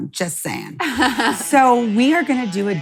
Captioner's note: laughs